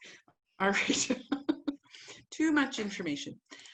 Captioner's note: laughs